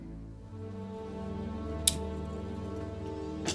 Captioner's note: handcuffs click